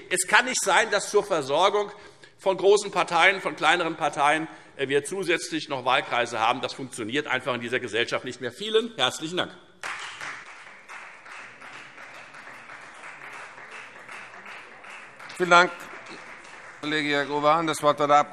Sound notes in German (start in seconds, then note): 9.8 Beifall Freie Demokraten